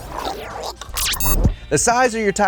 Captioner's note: makes choking sounds